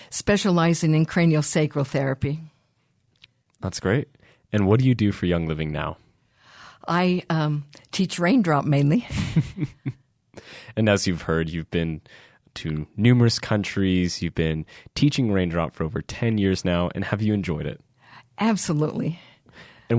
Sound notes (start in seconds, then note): 9.1 laughing